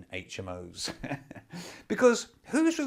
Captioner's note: chuckles